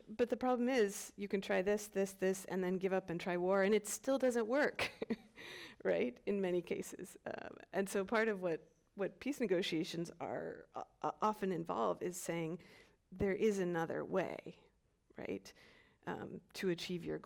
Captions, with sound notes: But the problem is, you can try this, this, this, and then give up, and try war, and it still doesn't work, (chuckles) right, in many cases. And so, part of what peace negotiations often involve is saying there is another way, right, to achieve your goals